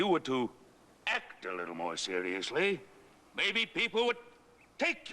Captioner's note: none